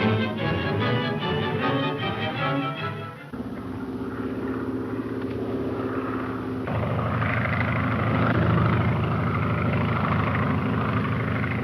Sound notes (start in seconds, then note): 3.3 airplane engine roaring